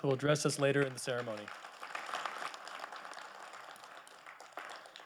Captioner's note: audience clapping